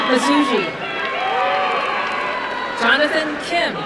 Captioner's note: applause and cheering